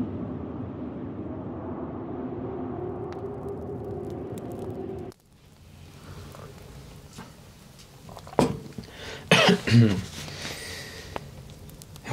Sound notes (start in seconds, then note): 5.7 sound of fire